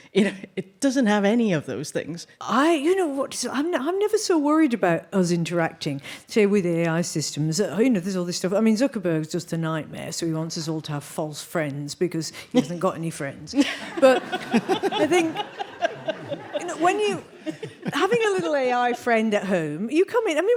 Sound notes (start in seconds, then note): 13.6 audience laughing